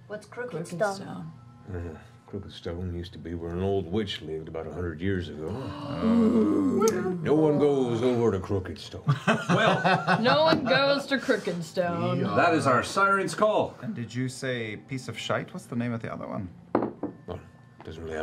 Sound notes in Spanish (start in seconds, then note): 5.8 respingo; 10.9 risas